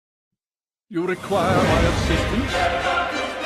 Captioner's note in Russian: говорит на клингонгском